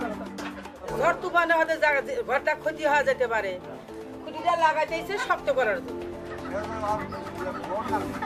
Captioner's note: foreign language